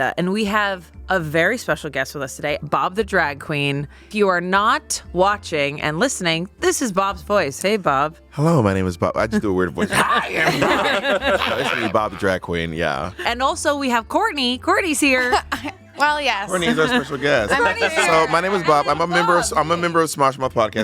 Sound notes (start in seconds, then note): 9.8 everyone laughs